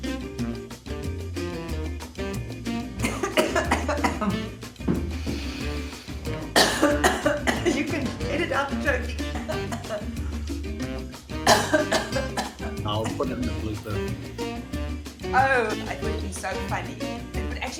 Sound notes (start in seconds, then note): 2.6 chokes on coffee; 6.5 continues choking on coffee; 11.4 chokes more